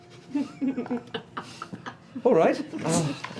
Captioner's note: laughter